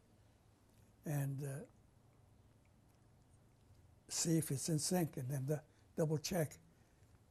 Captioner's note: pauses for 3 seconds